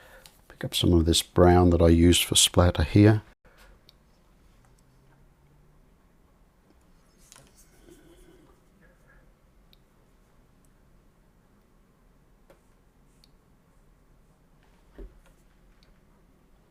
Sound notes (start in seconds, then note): 3.5 silence